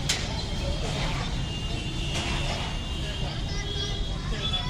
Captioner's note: indistinct conversations